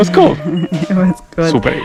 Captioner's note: laughing